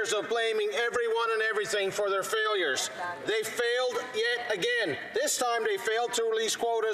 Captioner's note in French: voix de l'interprète